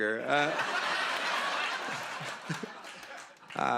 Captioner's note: laughter